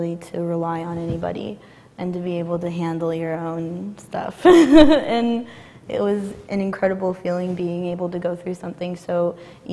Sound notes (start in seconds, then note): 4.6 laughs